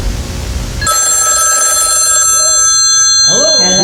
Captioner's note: riinngggggg